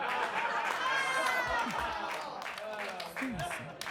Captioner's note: audience laughing